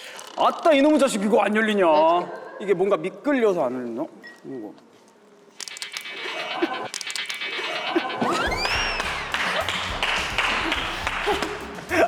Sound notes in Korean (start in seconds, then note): 5.5 와드득